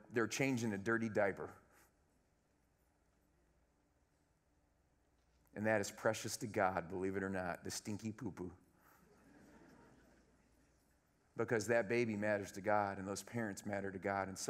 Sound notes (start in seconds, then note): 9.2 laughter